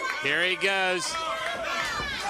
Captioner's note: crowd chatter